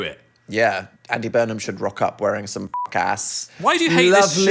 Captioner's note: beep